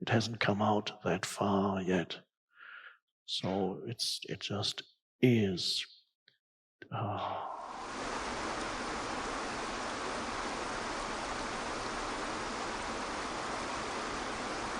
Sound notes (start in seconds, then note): 7.4 water babbling